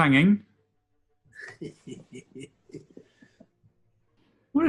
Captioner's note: chuckling